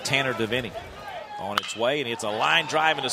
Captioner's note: bat hits ball